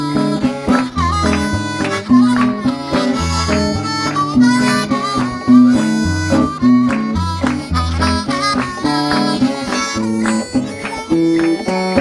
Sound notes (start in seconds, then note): 0.0 audience claps the rhythm; 0.0 harmonica pulls and wahs